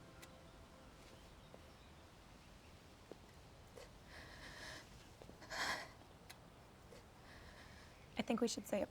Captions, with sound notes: [SIGHS SHAKILY] I THINK WE SHOULD SAY A PRAYER OR A POEM OR SOMETHING,